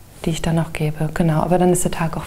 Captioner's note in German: none